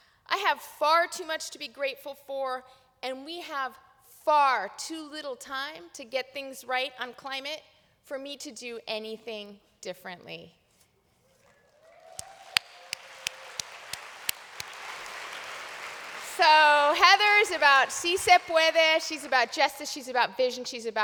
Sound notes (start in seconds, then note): 11.7 applause